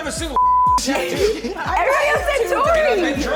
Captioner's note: beep